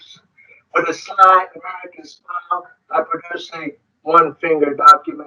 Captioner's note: speaks foreign language; speaking distorted